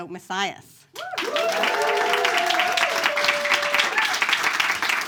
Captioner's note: audience claps